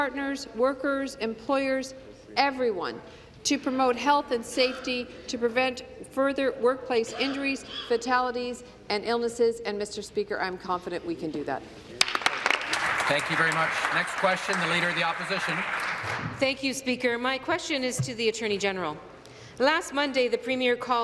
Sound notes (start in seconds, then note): 16.0 applause